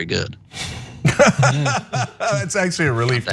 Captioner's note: laugh